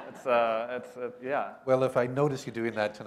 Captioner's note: laughter